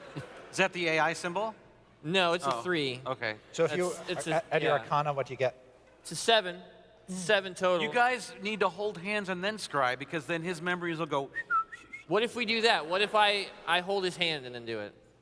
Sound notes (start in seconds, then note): 11.3 whistle